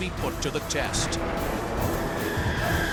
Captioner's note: jet engine noises